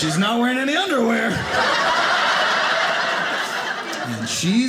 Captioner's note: audience laughing